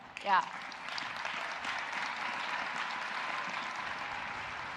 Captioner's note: audience applauding